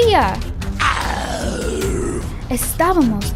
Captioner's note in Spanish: gritando con furia